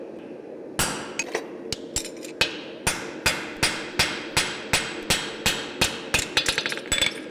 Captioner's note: sharp metallic hammering